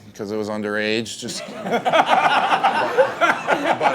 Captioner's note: laughing